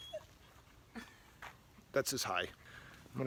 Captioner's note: dog whines